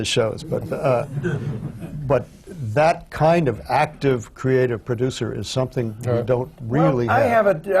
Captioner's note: laughter